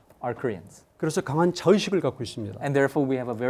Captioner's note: speaking in Korean